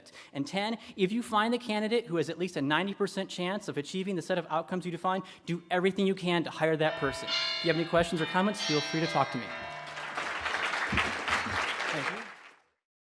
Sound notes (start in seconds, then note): 6.8 bell chiming; 8.6 audience clapping